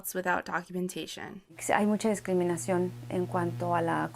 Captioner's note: speaking Spanish